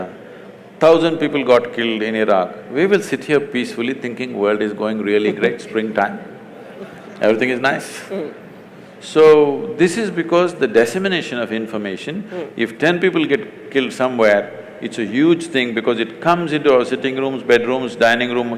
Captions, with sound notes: 1,000 people got killed in Iraq, we will sit here peacefully thinking world is going really great, (Barkha Dutt laughs) spring-time (Laughter), everything is nice. So, this is because the dissemination of information, if ten people get killed somewhere, it’s a huge thing because it comes into our sitting rooms, bedrooms, dining room,